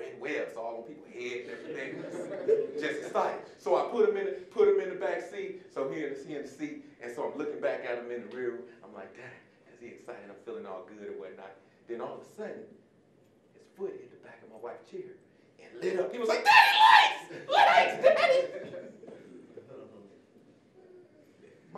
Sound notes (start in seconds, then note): 1.4 audience laughing; 17.2 audience laughing; 17.2 giggling